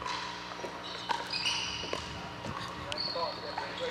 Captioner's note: ball bouncing